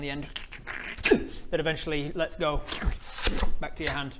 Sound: sllrrppp-uhg; shlrrup

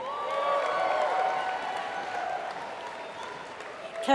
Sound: applause

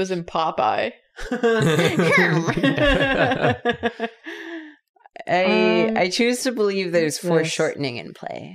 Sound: laughter

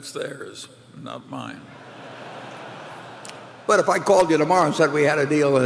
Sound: laughter

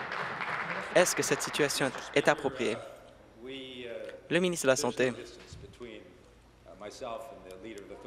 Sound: applause

